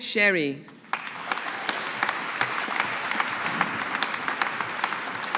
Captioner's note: audience applauding